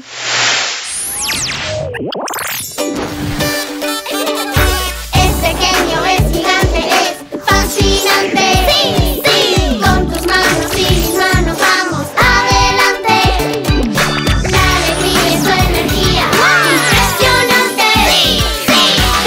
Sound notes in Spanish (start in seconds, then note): 2.4 Risas; 2.4 Sonido de bocina